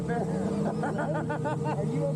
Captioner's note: laughing